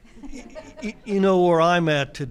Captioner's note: attendees laugh